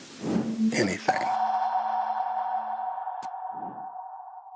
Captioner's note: high pitch clack